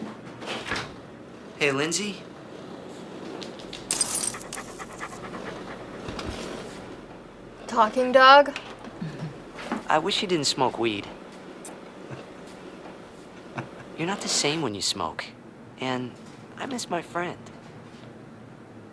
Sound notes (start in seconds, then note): 3.9 panting; 13.3 laughs